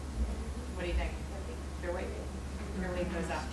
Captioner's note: speaking from off mic